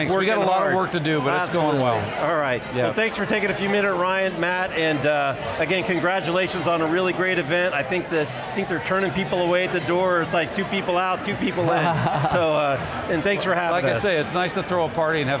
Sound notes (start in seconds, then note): 11.4 laughs